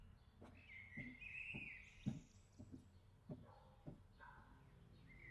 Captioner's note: birds chirping; footsteps tapping; dog barking